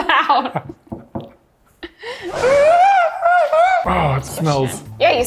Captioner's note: laughs